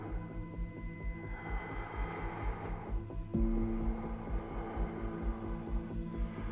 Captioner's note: ominous music; breath huffing